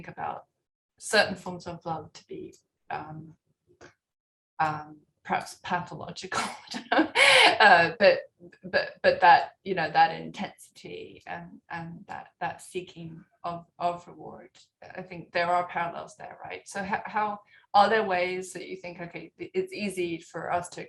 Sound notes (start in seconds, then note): 6.4 laughter